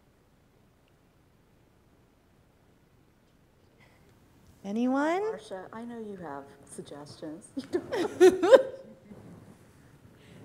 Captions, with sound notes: Anyone? - Marcia, I know you have suggestions. (laughing)